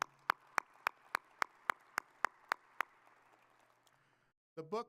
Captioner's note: audience applauding